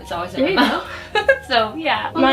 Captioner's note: laughs